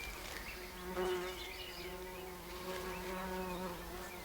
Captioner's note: birds chirping; footsteps pattering